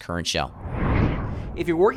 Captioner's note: swooshing Sound Effect